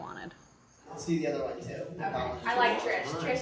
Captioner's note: idle chatter